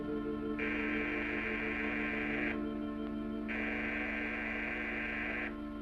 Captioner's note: door buzzer sounds